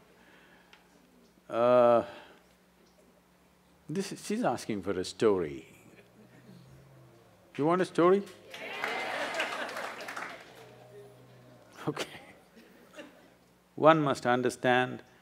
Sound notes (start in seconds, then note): 8.5 laughter/Applause; 13.0 laughs